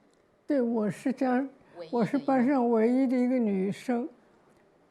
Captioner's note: Mandarin